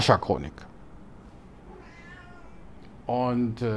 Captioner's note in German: Bo maunzt